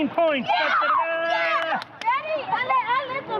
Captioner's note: kids in pool cheering